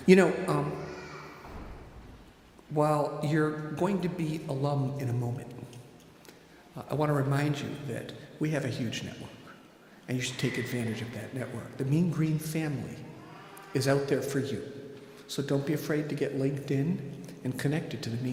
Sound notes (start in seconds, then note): none